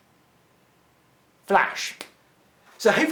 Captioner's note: snaps fingers